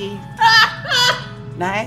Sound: laughter

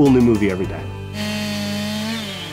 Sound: chainsaw sound

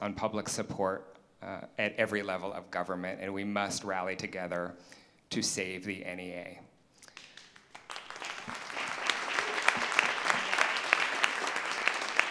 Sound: applause

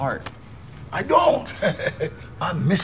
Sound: chuckling

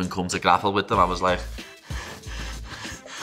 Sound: huffing sounds

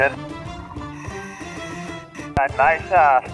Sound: deep breathing

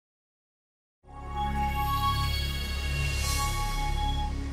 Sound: chiming sound

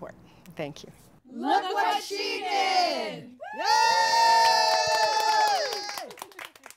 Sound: cheering

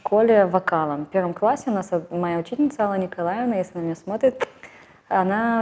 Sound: blows a kiss

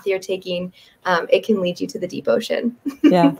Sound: giggles

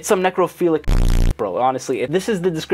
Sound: static crackling

